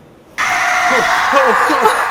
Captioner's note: John screams